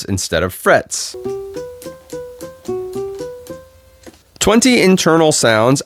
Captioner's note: buttons clicking